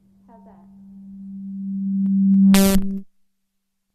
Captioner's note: mic feedback